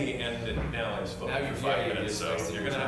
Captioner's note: multiple voices